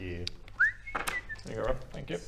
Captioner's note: whistling